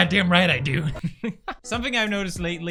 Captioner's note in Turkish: gülüyor